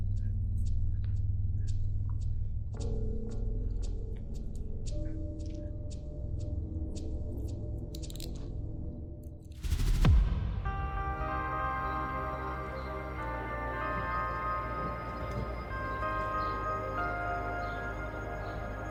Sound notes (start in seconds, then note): 7.9 click of handcuffs; 11.4 peaceful music